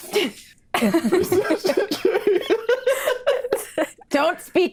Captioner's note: laughs